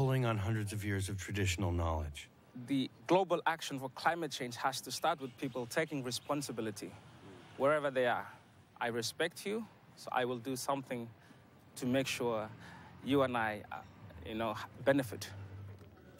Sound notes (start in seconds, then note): none